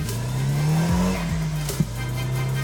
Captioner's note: car revs